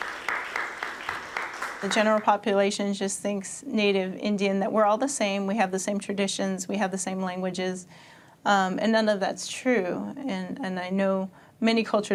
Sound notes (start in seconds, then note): 0.0 applause